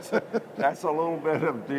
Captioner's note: laughter